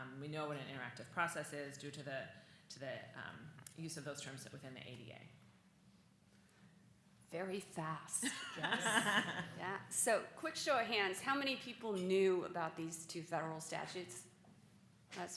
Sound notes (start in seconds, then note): 8.2 laughs